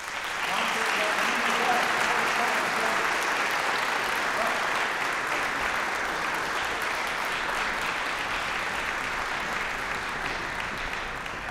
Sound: applause

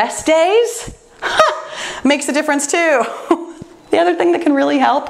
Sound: laughs

